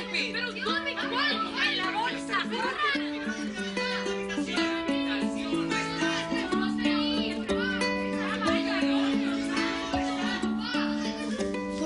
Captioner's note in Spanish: Hablan al unísono